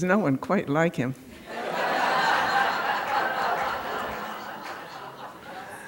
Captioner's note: laughter